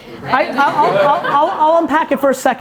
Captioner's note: audience laughing